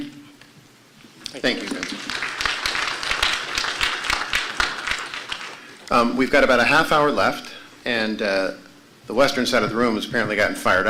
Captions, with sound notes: STATE. THANK YOU. >> THANK YOU. [APPLAUSE] >> WE'VE GOT ABOUT HALF-HOUR LEFT AND THE WESTERN SIDE OF THE ROOM HAS APPARENTLY GOTTEN FIRED